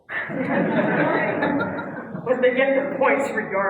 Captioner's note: laugh